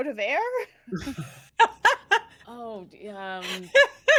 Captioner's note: everyone laughs; everyone laughs